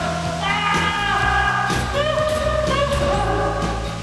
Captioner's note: screaming